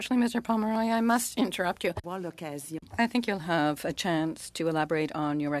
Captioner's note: speaking French